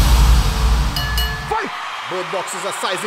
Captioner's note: Bell ringing